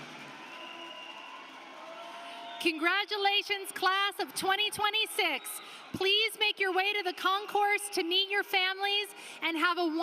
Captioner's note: applause